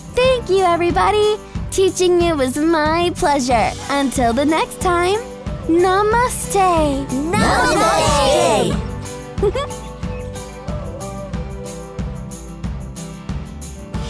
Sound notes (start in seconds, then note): 9.3 giggle; 9.4 upbeat music